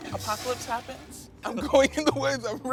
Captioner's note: toilet flushing